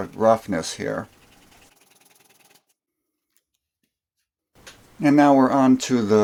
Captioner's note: sanding sounds